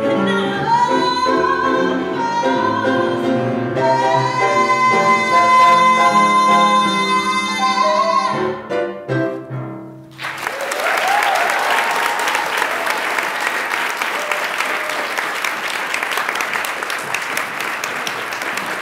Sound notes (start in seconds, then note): 9.1 bright music; 10.1 attendees applaud and cheer